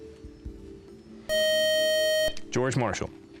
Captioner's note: time-out buzzer